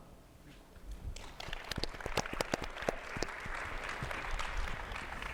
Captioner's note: attendees applauding